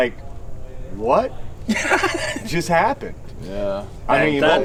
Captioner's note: laughing